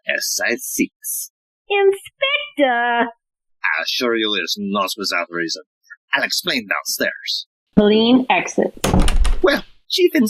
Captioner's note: HELENE exits - sound of door shutting